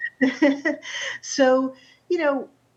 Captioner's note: chuckles